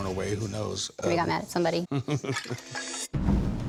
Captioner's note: chuckles